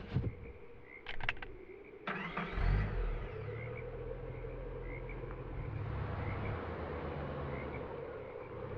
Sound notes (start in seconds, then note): 1.0 gun clicks; 2.0 car engine starts